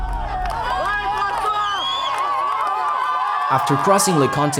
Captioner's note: crowd cheers